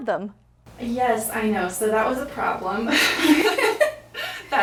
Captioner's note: laughs